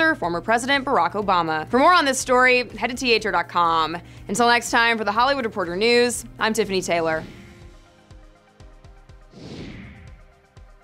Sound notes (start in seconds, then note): 7.3 upbeat music; 7.3 wind rushing